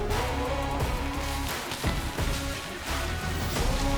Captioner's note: hooves clopping